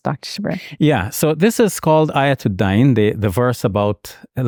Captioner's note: speaks in Arabic language